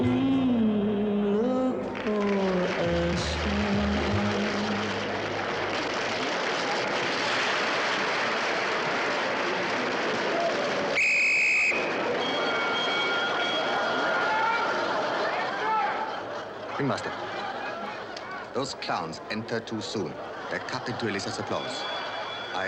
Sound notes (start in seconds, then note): 2.8 audience applauds; 10.9 whistle shrills; 12.2 bell dings